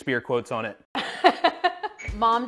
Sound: laughs

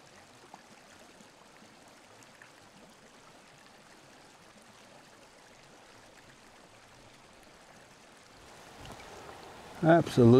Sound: water whirling

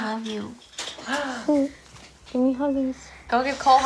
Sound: gasps

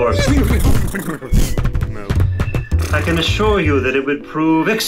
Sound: half-bull-half-horse noises

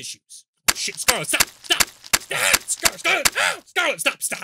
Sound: stabbing sounds

